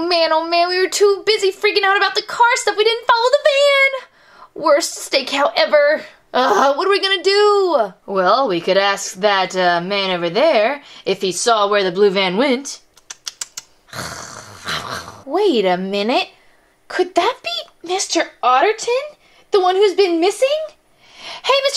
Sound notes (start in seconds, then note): 6.4 grunts; 13.9 growls